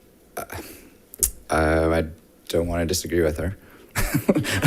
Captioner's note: laughs